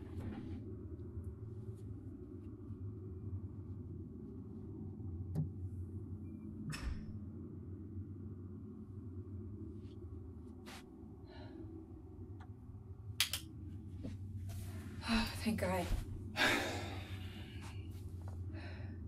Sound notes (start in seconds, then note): 13.2 flashlight clicks on; 16.3 sighs